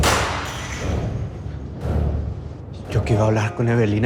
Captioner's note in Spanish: Estruendo